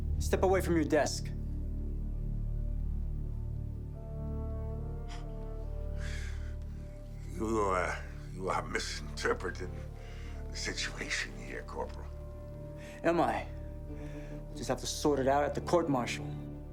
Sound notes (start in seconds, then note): 2.5 suspenseful music continues; 4.9 exhales